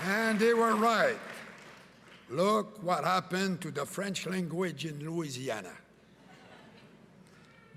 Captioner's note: cheering and Applause